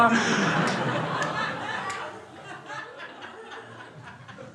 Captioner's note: crowd laughing